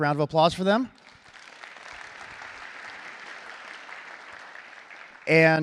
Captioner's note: applause